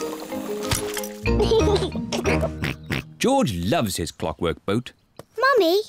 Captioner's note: giggles